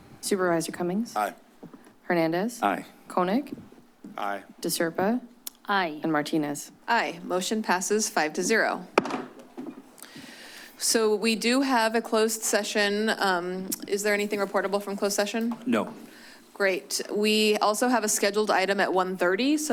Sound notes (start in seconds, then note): 8.9 bangs